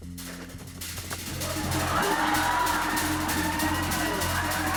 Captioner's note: cheers and applause